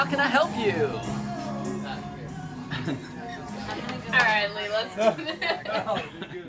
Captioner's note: music fades; man and woman chattering